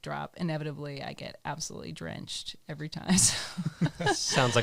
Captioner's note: laughs